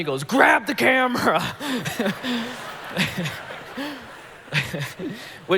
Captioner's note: congregation laughing